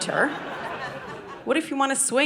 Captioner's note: audience laughing